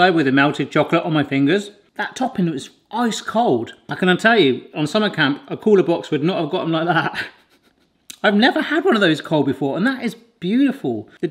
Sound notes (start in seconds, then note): 7.1 laughs